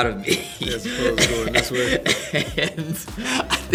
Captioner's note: laughing